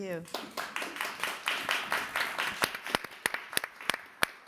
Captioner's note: audience applauding